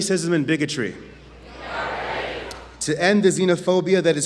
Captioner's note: audience chants "We are ready"